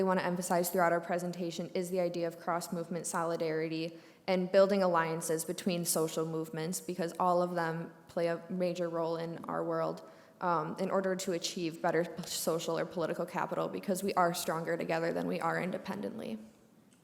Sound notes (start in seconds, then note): none